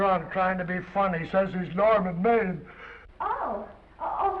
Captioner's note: yawns